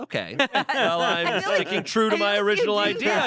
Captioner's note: everyone laughs